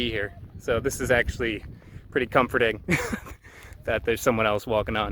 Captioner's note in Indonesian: tertawa